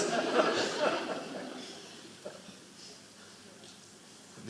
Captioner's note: audience laughing